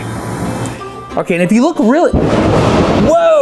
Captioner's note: lightning strike